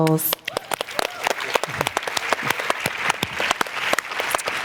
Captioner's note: applause